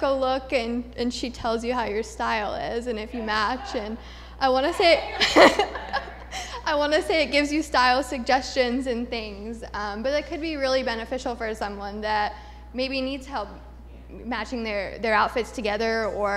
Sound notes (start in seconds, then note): 4.8 laughter